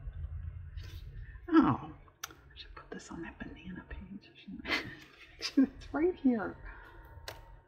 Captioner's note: laughs